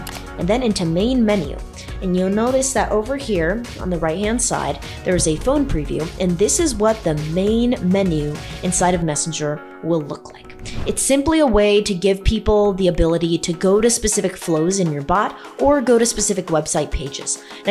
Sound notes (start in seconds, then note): 0.0 mouse clicks; 10.6 swoosh